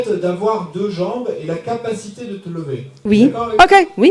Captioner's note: speaking in French